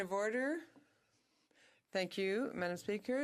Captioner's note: speaking French